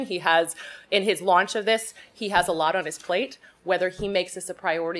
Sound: none

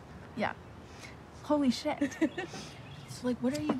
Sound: Maddie laughs

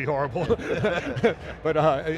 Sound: laughing

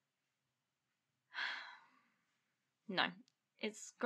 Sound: a pause. lola sighs

